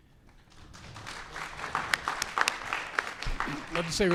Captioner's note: applause